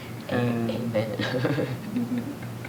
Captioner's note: laugh